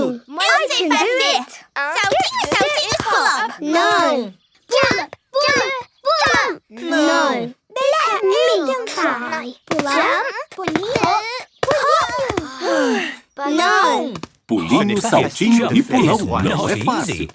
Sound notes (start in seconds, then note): 12.6 sigh